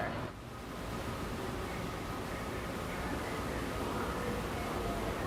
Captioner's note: train engines whirring